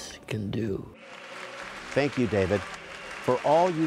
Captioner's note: applause